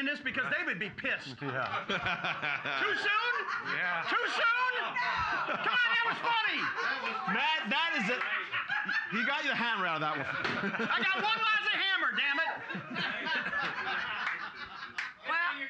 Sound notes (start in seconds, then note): 2.3 loudly laughing; 3.9 audience shouting; 10.5 gavel knocks; 12.6 loudly laughing